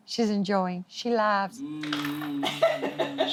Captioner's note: laughs